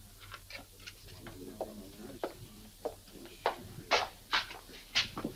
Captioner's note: footsteps tapping